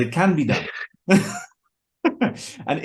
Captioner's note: they laugh